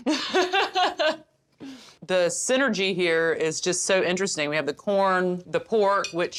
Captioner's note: laughs